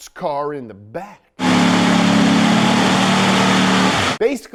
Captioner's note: engine revving